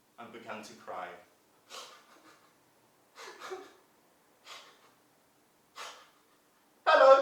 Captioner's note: sound of crying